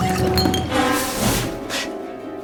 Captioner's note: bottle dropping; clothes rustling